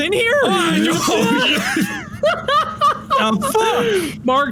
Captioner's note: laughter